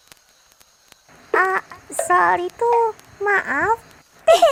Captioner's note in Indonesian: Suara Perut lapar